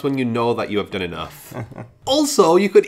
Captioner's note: laughs